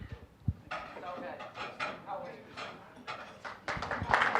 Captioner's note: with Scottish accent; general chatter; applause